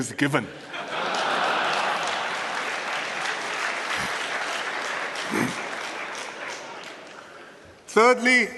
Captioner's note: laughter and applause